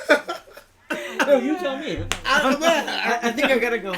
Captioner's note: laughter